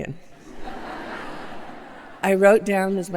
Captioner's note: laughter